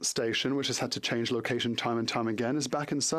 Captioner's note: speaking French